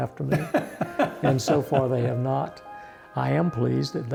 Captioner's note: laughs